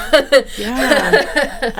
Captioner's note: laughing